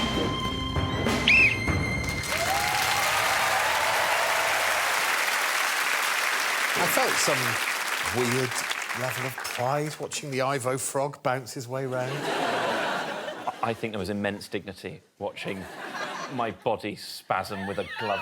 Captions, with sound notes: -[Alex blows whistle] -[cheering and applause] I felt some weird level of pride watching the Ivo frog bounce his way around. I think there was immense dignity watching my body spasm